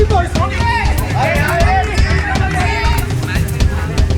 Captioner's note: indistinct chatter